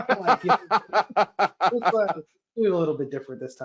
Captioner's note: laughs